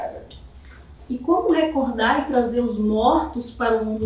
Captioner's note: speaking portuguese